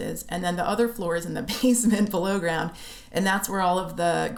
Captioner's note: laughter